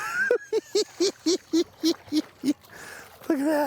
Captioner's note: cackling